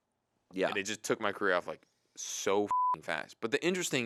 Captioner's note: beep